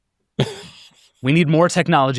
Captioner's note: laughs